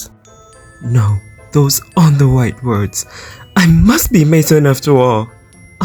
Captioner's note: voice thickens with emotion